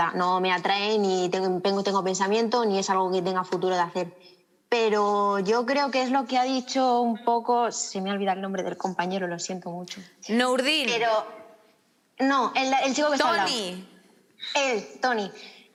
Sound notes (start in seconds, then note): none